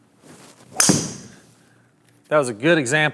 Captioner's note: ball hits wall